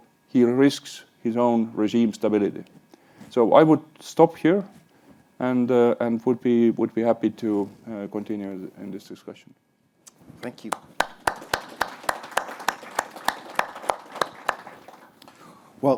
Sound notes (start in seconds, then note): 10.7 applauds; 10.9 attendees applaud